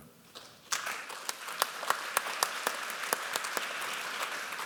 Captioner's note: applause